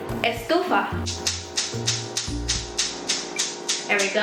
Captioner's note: very annoying gas stove noises